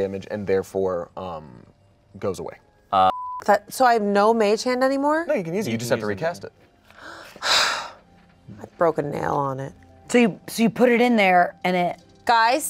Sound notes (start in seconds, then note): 3.0 beep; 7.0 sighs